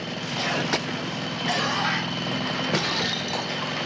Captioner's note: coughing